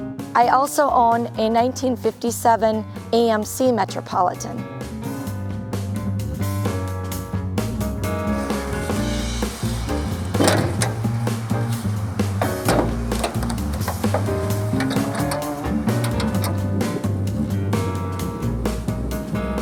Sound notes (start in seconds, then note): 5.1 lively upbeat music; 10.4 hood clanking; 13.3 metal clinking; 16.3 lively upbeat music